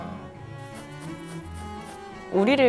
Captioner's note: scratching